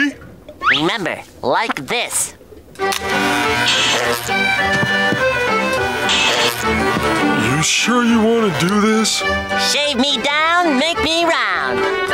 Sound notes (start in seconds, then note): none